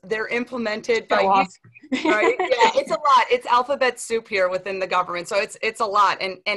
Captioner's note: laughter